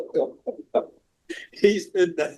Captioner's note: laughing